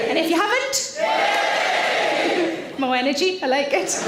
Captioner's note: audience cheering; audience cheering louder